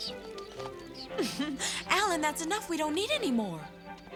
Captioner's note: giggles